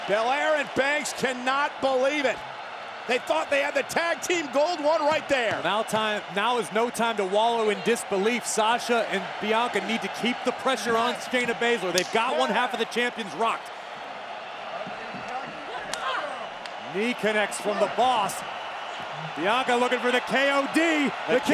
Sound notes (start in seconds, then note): 15.5 foot slaps